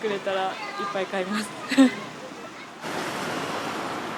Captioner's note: laughs